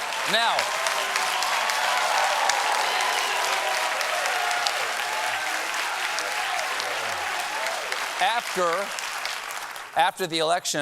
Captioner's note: cheers and applause